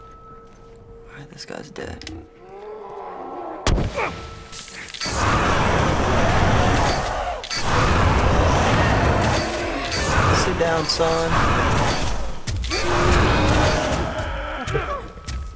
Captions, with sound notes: All right, this guy's dead. (Bloater growls) (spores burst, Joel grunts) (flames whoosh) (Bloater shrieks) Sit down, son. (Bloater moans in pain)